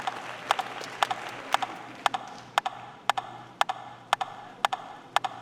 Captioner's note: audience applauding